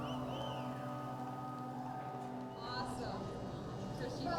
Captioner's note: whistling from crowd